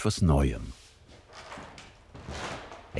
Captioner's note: footsteps, creaking wood